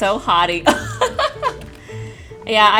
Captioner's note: laughing